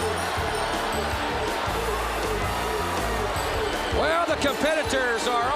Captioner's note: crowd chatter; crowd cheering